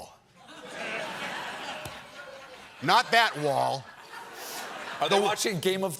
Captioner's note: laughter